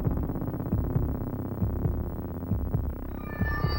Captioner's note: mysterious music; heart beating